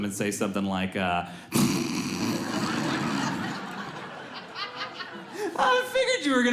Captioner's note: snorts